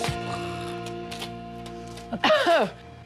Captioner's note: coughs